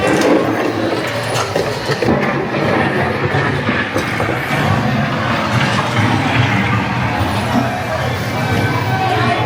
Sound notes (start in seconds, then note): 5.1 TNT exploding sounds